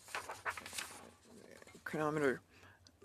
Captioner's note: speaking in French